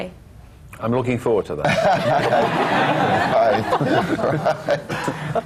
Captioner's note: laughter